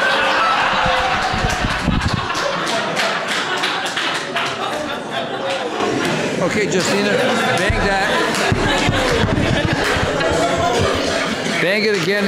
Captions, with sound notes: (crowd laughing) (crowd clapping) Okay, Justina, bang that. (crowd laughing) Bang it again,